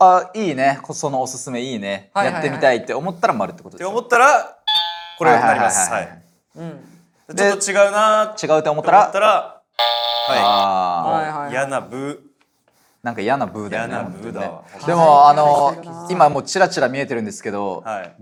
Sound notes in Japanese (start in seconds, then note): 4.6 正解音; 9.8 不正解音